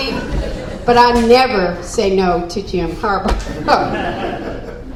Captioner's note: laugh